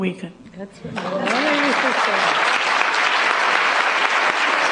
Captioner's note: applause